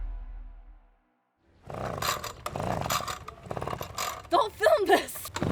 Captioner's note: machine revving